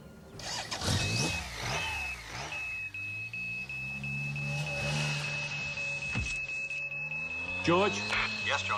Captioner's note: beeper signal